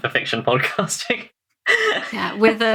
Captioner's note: laughs